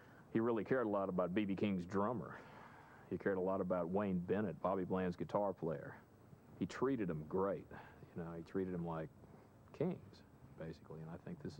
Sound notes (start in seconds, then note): none